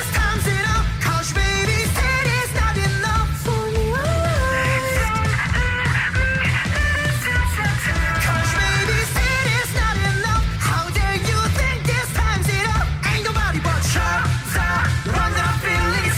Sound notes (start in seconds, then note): 1.3 upbeat music; 8.1 speaking in foreign language; 9.3 upbeat music